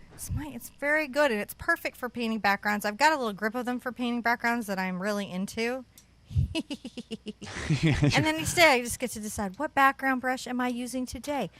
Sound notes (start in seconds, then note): 6.4 laughs; 6.4 evil laugh